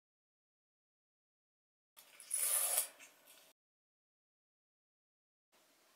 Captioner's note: zipper marking and cutting